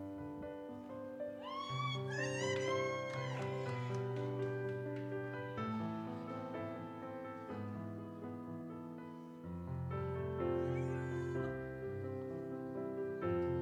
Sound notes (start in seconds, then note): 1.4 audience cheers; 2.2 gentle music continues